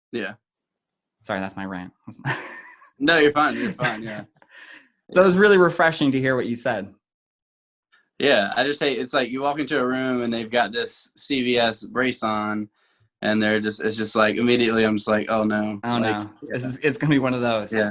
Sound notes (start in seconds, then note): 2.1 laughing